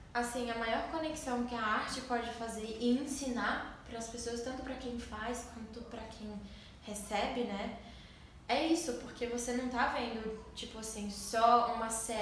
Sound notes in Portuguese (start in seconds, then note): none